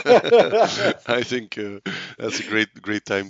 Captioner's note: laughs